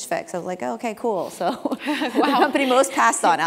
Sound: laugh

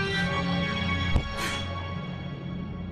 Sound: dramatic in-game music; thonk

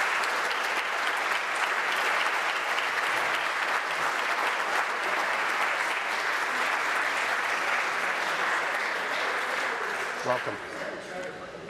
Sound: applause

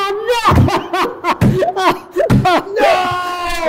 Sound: Dec crying

